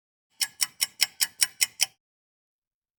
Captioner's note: clock ticking